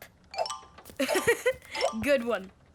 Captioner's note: laughing